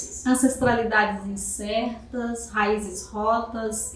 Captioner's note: speaking portuguese